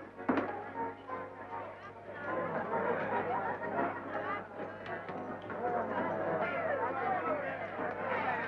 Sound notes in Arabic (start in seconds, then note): 2.0 الزبائن يضحكون ويثرثرون